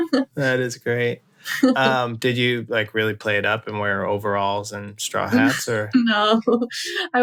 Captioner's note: laughter; laughter; laughter